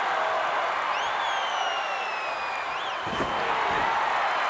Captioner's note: audience cheering